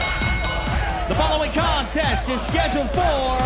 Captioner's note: bell ringing